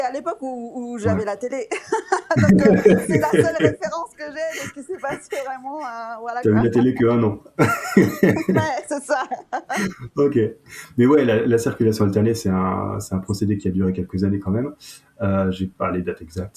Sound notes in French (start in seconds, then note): 1.7 rires; 7.5 rires